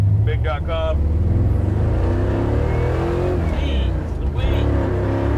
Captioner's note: engine growling